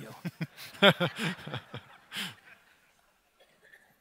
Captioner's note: audience laughter